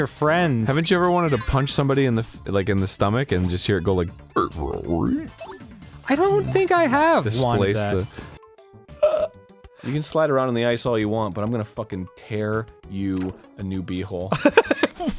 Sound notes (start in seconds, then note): 4.3 mimics stomach sounds